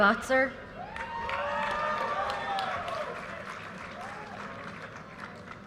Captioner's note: audience cheers and applause